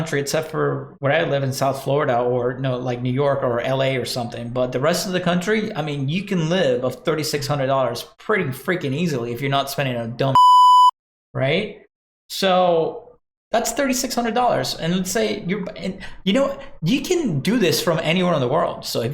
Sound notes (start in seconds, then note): 10.3 beep